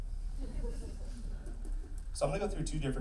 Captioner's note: laughing